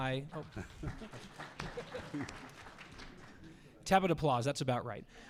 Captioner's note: audience applause